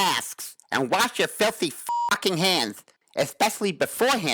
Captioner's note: beep